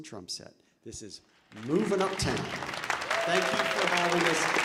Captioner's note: audience applauding